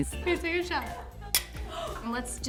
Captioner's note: gasps